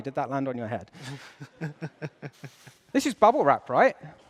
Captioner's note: laughs